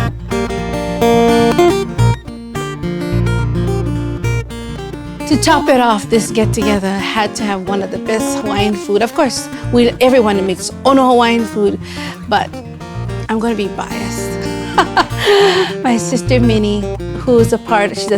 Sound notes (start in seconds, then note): 14.4 laughs